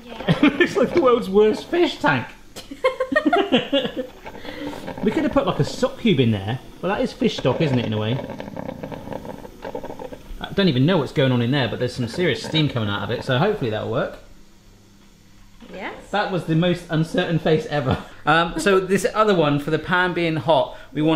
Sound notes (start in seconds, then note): 2.6 both laughing; 2.7 laughs